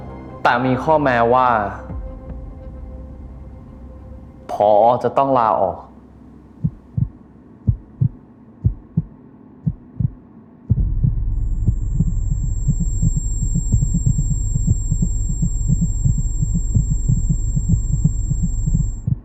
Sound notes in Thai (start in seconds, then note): 6.4 เสียงหัวใจเต้นเป็นจังหวะ; 10.6 เสียงหัวใจเต้นถี่ขึ้นเรื่อย ๆ